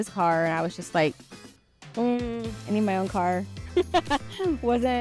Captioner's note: laughing